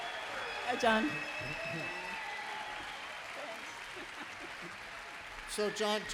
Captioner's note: applause and cheers